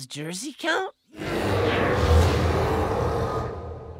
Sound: distant roaring

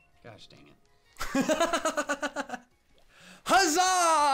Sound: laughs

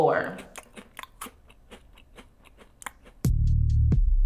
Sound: chewing

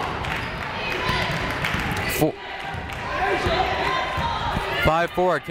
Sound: people shouting in the crowd

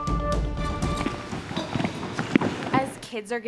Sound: children's footsteps

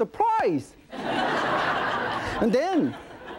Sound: audience laughing

